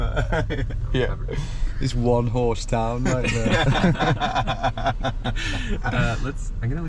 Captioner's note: laughter